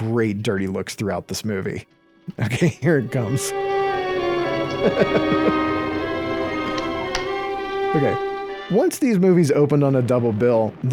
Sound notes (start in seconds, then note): 2.7 suspenseful music; 4.4 chuckles